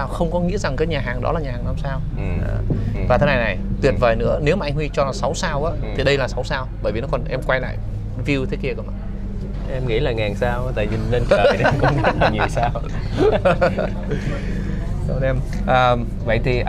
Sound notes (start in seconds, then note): 14.2 laughters